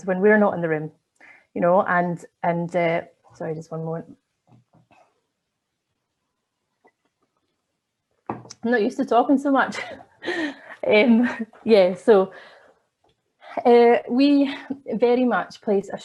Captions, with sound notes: when we're not in the room? And sorry, just one more, I'm not used to talking so much. [LAUGHS] And yeah, so we very much place a strong emphasis